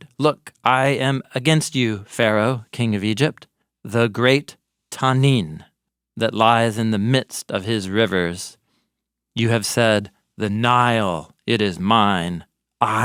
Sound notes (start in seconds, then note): 4.5 speaking in foreign language